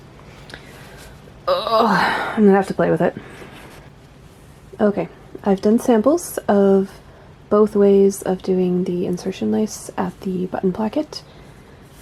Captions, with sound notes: *groans* I'm going to have to play with it. Okay, I've done samples of both ways of doing the insertion lace at the button placket,